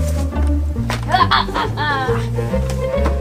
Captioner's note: laughs